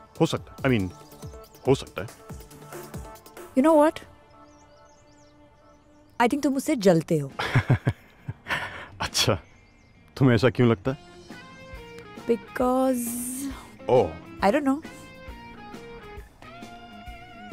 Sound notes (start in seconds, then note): 4.6 birds chirping; 7.4 giggling